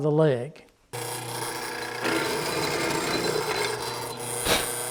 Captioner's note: drilling